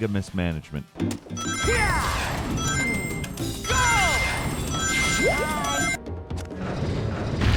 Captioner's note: Sonic yelling; rings dinging